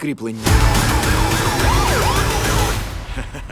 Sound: sirens wailing; music stops abruptly

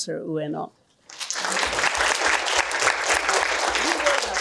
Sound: applause

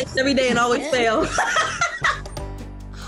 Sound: laughs

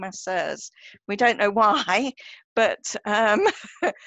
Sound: laughter

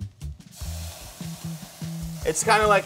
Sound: pan sizzling

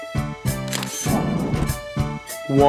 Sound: SFX: Camera Shutter

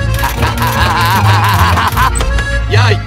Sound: medical charge noises

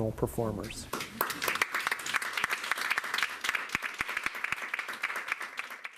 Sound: audience clapping

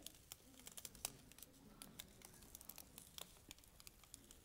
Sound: crackling

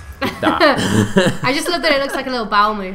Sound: laughter

